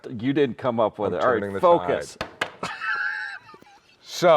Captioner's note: laughs